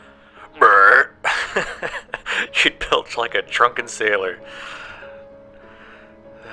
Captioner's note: burp